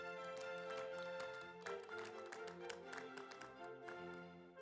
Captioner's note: audience applauds